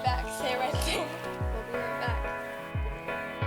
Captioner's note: chuckles